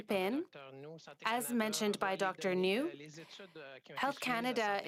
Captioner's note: speaking French